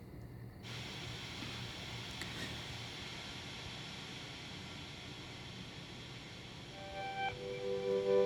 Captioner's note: TV static